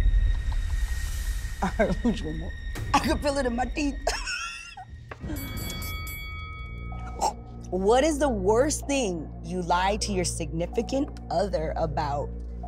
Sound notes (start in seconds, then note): 3.9 laughing